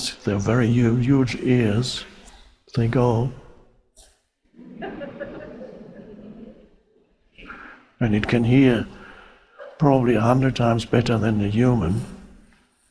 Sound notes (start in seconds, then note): 4.5 audience laughing